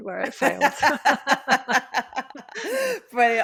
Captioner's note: laughter